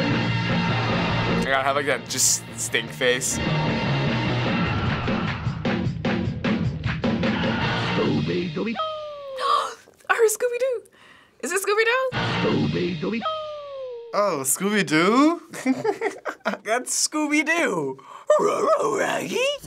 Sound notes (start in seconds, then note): 0.2 tempo quickens; 5.6 drum solo; 8.8 gasps; 15.5 giggles; 17.6 Scooby voice